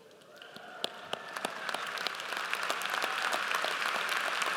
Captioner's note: audience applauds